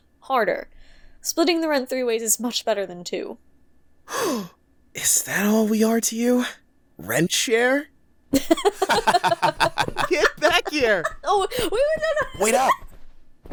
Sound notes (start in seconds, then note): 4.0 gasp; 8.4 laughing